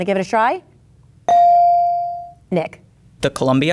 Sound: bell dinging

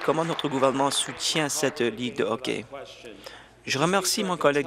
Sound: applause

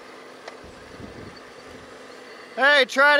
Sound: machine clanking

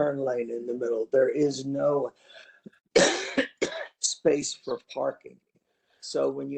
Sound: cough

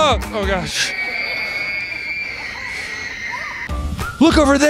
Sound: screaming

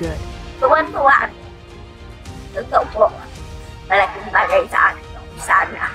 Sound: speaking in foreign language

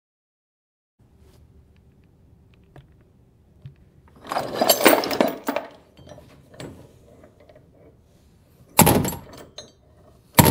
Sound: sound of chain

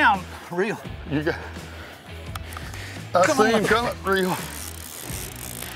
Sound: reeling noises

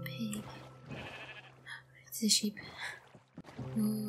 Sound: gasp

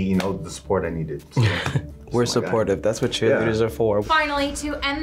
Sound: chuckles

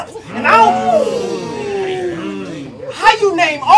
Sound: audience moans

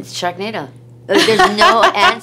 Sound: laughs

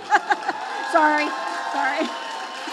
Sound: laughs; audience applauding

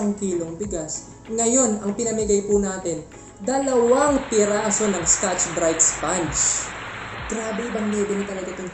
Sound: self-aggrandizing applause #2

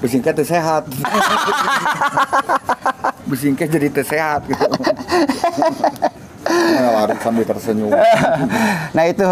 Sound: laughs

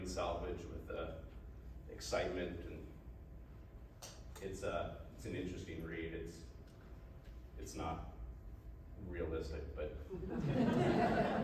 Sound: laughs

